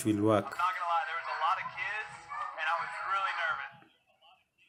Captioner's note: TV sound